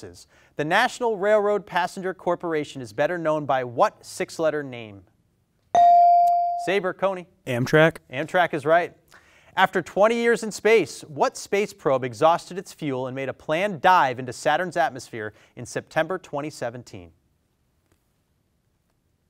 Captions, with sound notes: the National Railroad Passenger Corporation is better known by what six-letter name? (bell dings) Saber, Coney. - Amtrak. - Amtrak is right. After 20 years in space, what space probe exhausted its fuel and made a planned dive into Saturn's atmosphere in September, 2017?